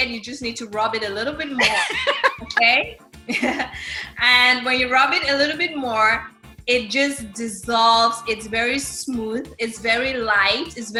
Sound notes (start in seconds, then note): 1.6 chuckles; 1.6 laughs